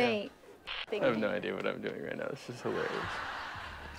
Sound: laughter

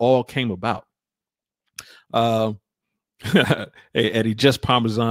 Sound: laughs

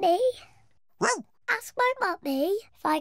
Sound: oinks; barks

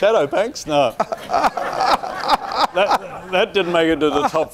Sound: laughing

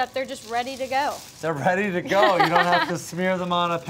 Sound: laughs

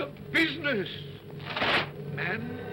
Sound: chains rattle

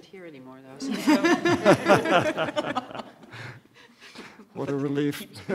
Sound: laughter; laughter

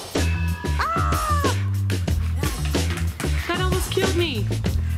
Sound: screams

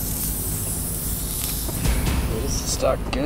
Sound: air releasing

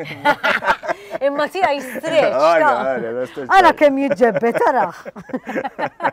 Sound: both laugh; both laugh

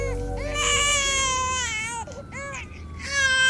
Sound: baby crying

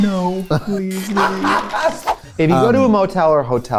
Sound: laughs

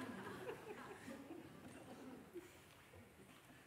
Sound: laughter

